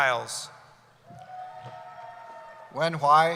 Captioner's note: cheering